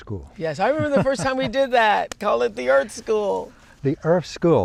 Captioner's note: laughs